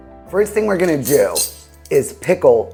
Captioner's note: utensils clinking